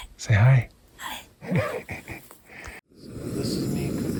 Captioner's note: laughing